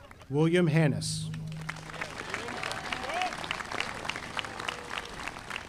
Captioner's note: audience applauding